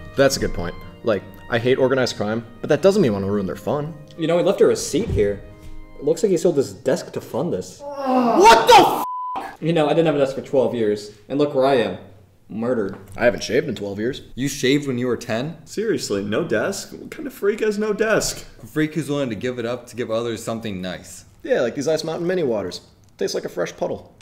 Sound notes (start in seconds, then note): 7.8 groans in disgust